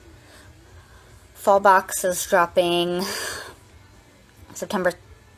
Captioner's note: sighs